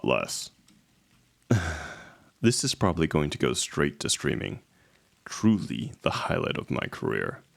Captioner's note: sighs